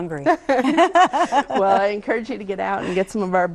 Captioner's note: laughs